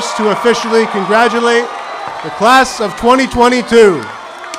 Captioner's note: adience applauding